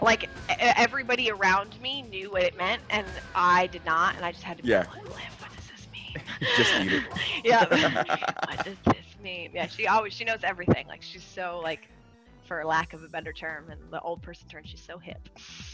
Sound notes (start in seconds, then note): 6.1 laugh